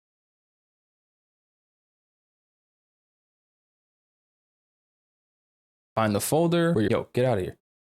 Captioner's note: silence